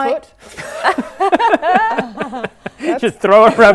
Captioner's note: laughing